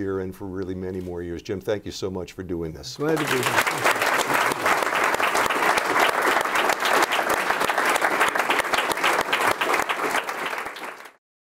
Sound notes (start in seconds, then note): 5.2 applause